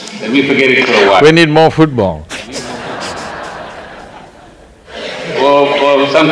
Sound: laughter

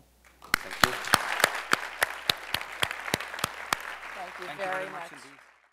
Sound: crowd applauding

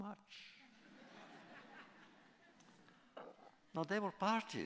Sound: laughter

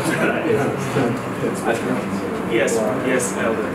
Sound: audience chuckles

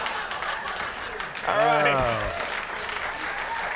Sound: Conan and Norm laughing; audience laughing; Norm groans; audience cheering

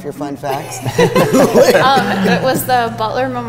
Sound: all laughing

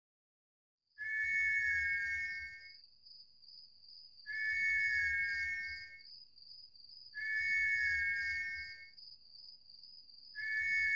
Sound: sleep Whistling

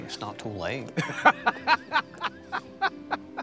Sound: laughing

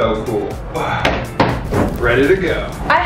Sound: slaps suit

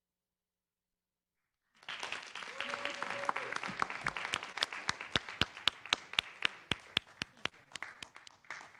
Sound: applause and cheering

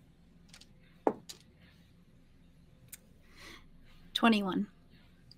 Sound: dice thudding gently

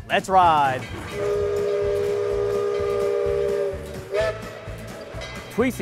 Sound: train whistle blowing

